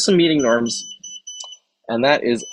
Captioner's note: alarm beeps